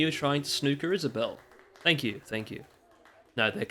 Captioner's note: clapping